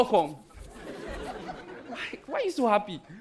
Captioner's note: audience laughing